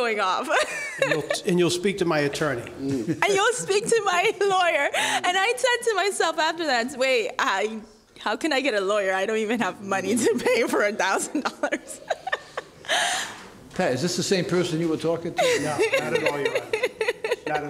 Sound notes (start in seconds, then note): 0.6 laughing; 11.1 laughing; 15.4 laughing